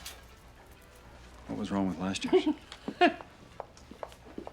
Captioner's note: valerie chuckles